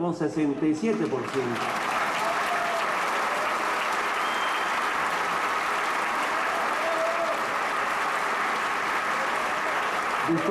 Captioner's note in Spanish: Aplausos